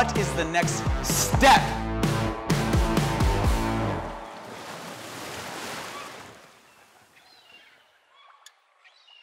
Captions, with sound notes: - What is the next step? (waves crashing, birds cawing)